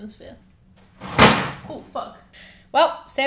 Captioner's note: object slams